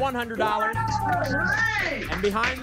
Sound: applause and cheering

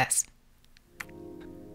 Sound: click

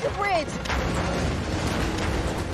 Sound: car tumbling

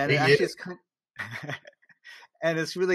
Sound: laughs

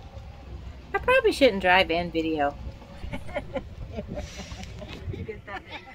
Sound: laugh

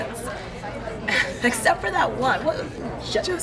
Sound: ladies laughing

